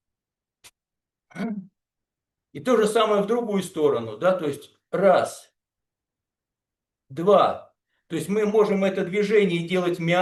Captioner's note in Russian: откашливается